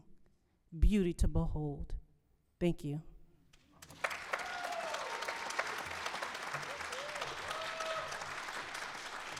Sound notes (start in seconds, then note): 3.8 applause